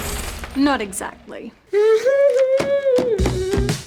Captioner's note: sobs